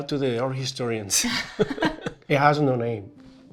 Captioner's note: chuckle